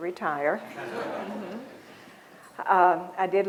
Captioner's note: laughter